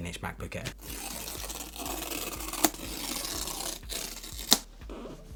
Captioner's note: tape ripping